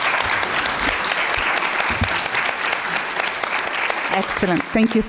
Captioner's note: applause